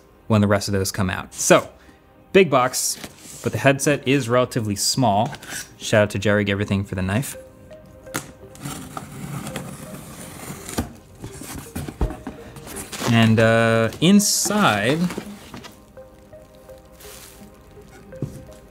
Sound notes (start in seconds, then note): 8.5 tape tearing; 15.4 gentle music